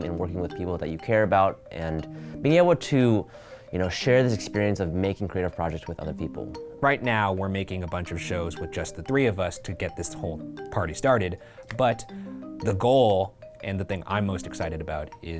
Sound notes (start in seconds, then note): none